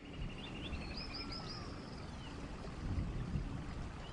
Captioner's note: birds chirping